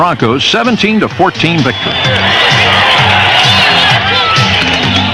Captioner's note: crowd cheering